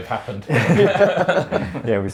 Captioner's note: laughter